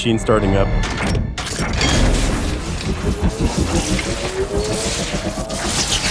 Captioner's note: machine revving and whirring